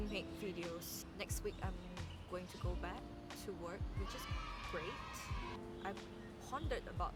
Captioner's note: children's cheering